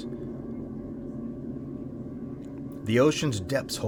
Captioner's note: spooky sounds